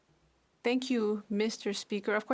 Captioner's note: speaking French